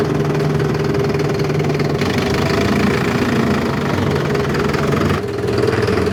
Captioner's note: engine noise